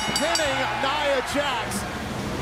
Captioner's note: bell ringing